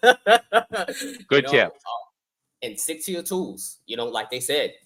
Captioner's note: laughter